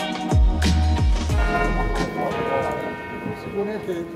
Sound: church bell tolling

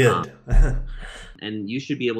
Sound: laughing

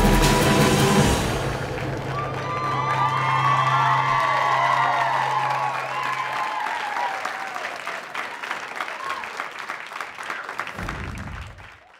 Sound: audience applauds

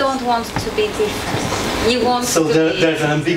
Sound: none

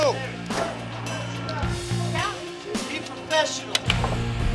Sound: chatter

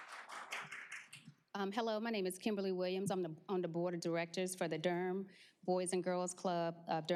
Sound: applause

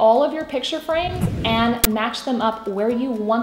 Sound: swooshing

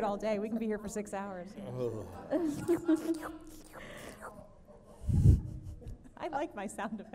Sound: makes sucker sound

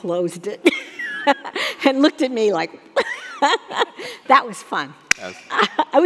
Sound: laughing

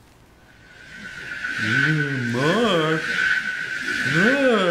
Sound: whoooosh

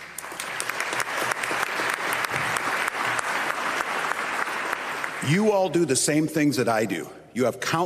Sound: applause

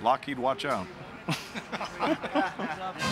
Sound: all chuckle

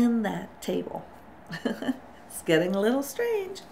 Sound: chuckles

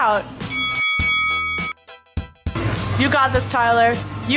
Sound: ringing sound

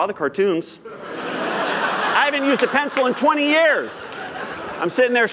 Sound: laughter

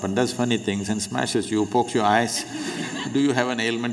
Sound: laughter

